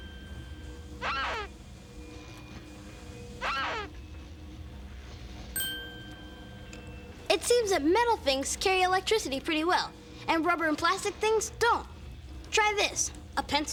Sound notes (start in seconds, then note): 0.9 <i> squeaking</i>; 3.4 <i> squeaking</i>